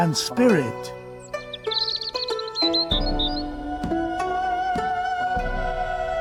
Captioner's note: birds chirping